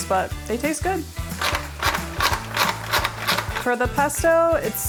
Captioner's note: strainer clacking